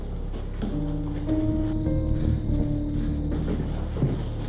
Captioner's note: footsteps clicking